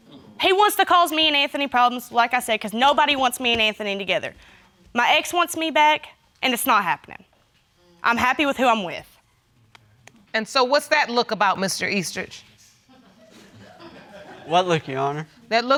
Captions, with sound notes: He wants to cause me and Anthony problems, like I said, 'cause nobody wants me and Anthony together. My ex wants me back and it's not happening. I'm happy with who I'm with. And so what's that look about, Mr. Eastridge? (AUDIENCE CHUCKLES) What look, Your Honor?